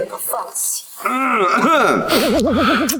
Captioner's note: cough cough